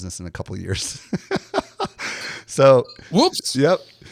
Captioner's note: laughs